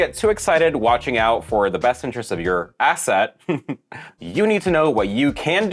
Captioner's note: laughs